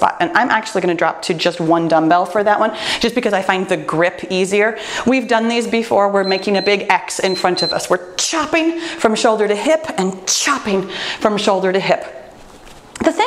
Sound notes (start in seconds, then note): 7.1 timer beeps